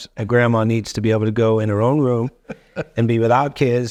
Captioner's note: chuckling